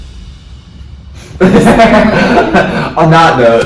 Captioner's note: laughing